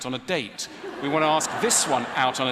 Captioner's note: ضحك